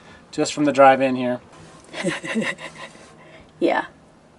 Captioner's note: laughs